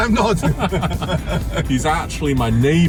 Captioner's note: laugh